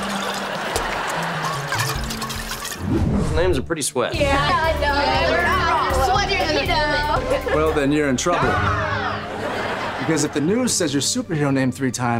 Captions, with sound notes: Those names are pretty sweat. Yeah, I know. [chattering] Well, then you're in trouble. Because if the news says your superhero name three times,